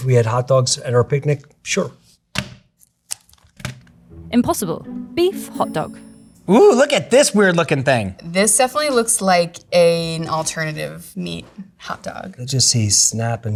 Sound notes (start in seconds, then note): 2.3 plastic rustling; 3.2 package thunks